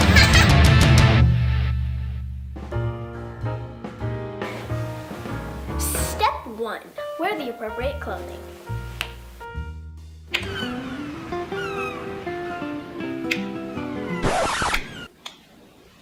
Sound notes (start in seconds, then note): 2.6 jazz music; 10.2 snap; 10.3 seagulls and beach music; 13.2 snap; 14.0 record scratch